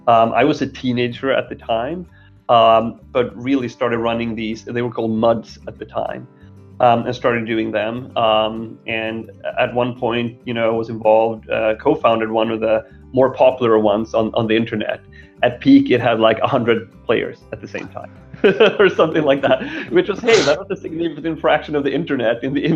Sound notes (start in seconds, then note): 18.4 laughing